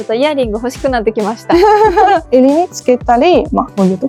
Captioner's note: laughs